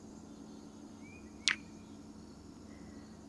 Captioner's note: kiss